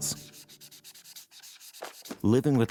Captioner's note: eraser erasing